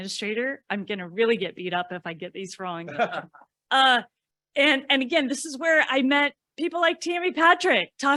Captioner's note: laughter